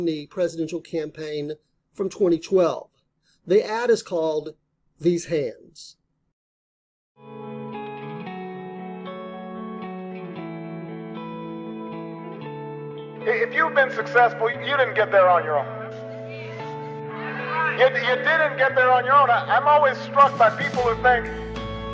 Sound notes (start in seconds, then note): 7.6 Barack Obama speaking; 7.6 mellow guitar music playing